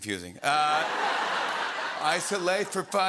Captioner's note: laughter